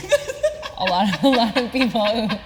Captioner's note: laughing